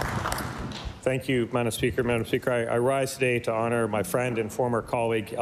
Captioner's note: applause